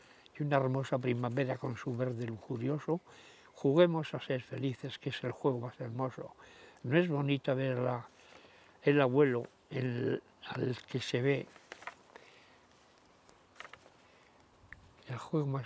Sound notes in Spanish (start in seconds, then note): 11.3 Sonido de papeles